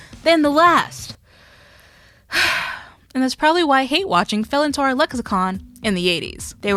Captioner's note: big breath